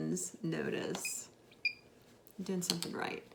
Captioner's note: machine beeps